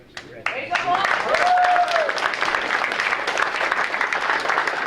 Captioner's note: audience applauding